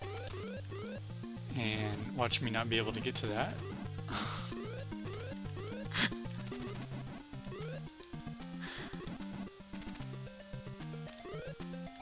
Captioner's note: laughs